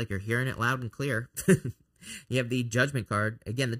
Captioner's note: laughs